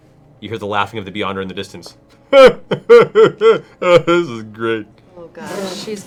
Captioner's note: Doofus-esque voice